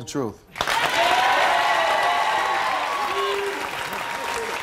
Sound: applauding

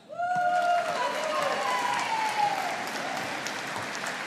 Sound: audience applauding

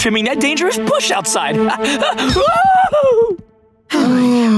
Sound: yelping; sighing

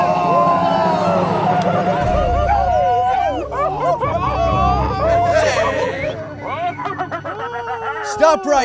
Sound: The Creatures battle cry in the distance

